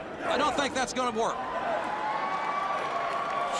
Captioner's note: crowd cheering